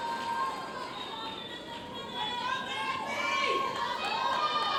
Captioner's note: audience chattering